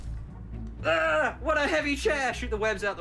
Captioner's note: groans